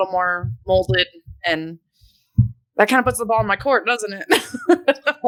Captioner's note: laughs